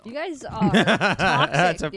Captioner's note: laughing